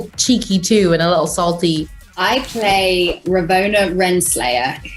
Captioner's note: laughs